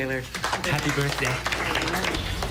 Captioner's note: students applauding